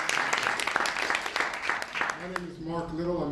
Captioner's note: applause